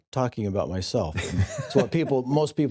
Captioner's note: laughs